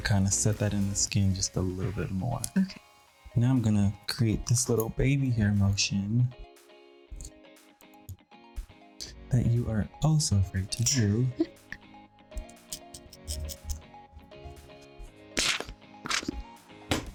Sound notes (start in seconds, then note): 10.8 chuckles; 12.3 upbeat music